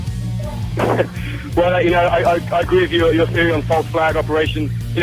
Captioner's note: laughing